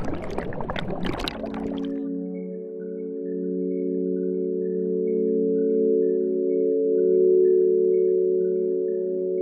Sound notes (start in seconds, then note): 0.0 water gurgling; 3.2 gentle music